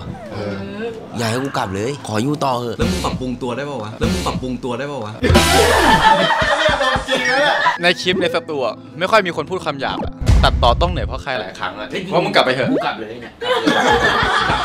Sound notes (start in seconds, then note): 5.2 laughs; 13.4 laughs